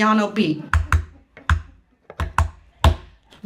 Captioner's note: tapping